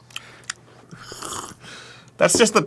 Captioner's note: slurp